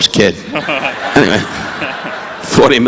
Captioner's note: audience laughing; laughing